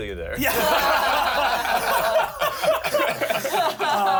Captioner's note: everyone laughs